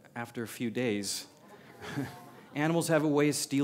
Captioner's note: laughter